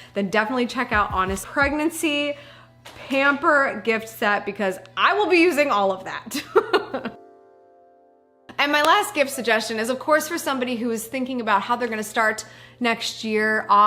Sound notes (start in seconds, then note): 6.4 laughs